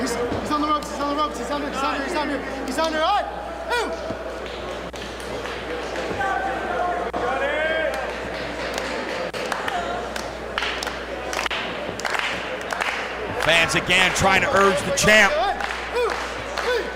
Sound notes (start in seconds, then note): 4.1 applause